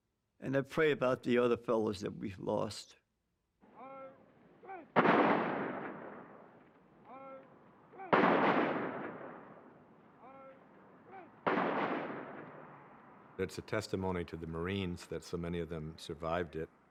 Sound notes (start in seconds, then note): 3.4 man shouting; 4.8 gunfire; 6.9 man shouting; 7.9 gunfire; 10.1 man shouting; 11.0 gunfire